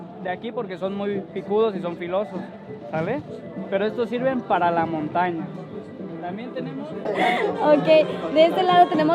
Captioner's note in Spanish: Risas